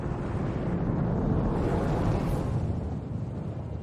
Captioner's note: volcano erupting